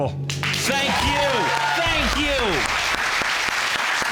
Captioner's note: all clapping